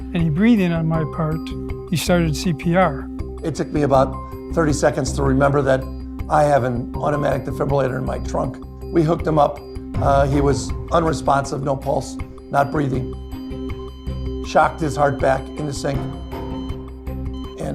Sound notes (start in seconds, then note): 12.9 heart monitor flatlining; 16.8 heart monitor beeping